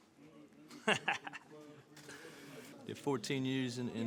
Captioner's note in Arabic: يضحك